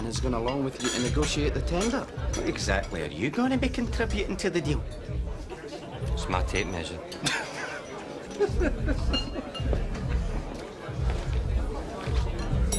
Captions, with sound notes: and is going along with you and negotiate the tender. What exactly are you gonna be contributing to the deal? It's my tape measure. (BOTH LAUGHING)